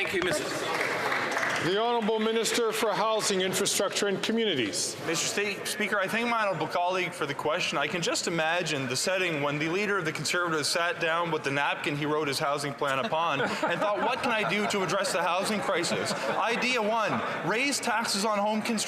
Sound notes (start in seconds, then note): 3.5 some Applause